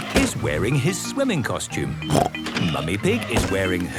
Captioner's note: snorts